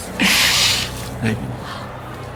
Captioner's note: Dell laughing